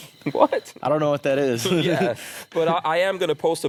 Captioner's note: laughs